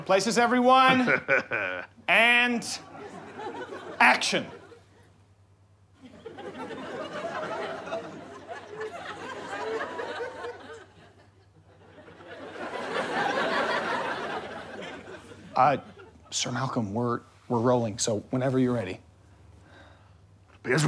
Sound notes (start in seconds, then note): 0.8 chuckles; 6.0 audience laughter